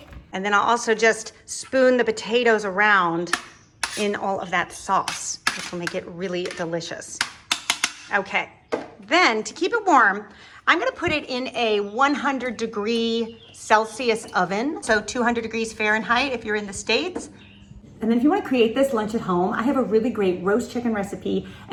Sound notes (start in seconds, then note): 3.3 spoon scraps; 7.2 spoon taps